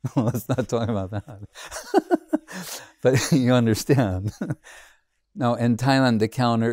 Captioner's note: laughing